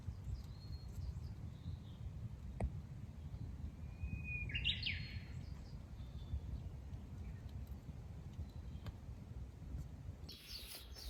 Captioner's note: birds chirping